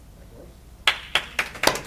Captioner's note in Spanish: aplausos